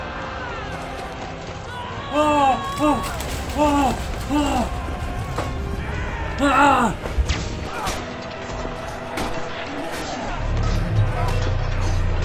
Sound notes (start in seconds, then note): 0.3 sounds of running; 2.1 cheers in excitement; 4.6 rustling; 6.3 cries; 7.8 sounds of fighting in the background